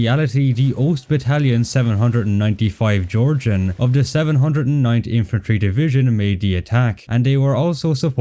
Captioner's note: Georgian